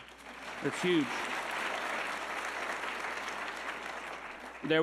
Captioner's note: audience clapping